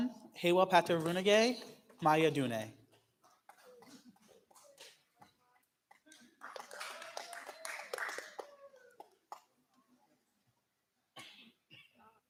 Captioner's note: clapping